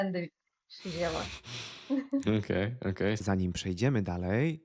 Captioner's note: snort